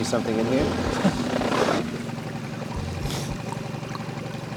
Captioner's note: chuckling